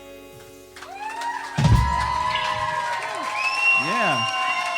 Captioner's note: audience applauding and cheering